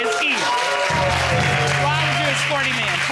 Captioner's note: audience cheering